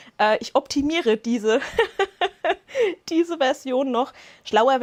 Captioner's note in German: Lachen